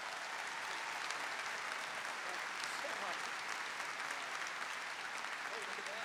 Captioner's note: audience applause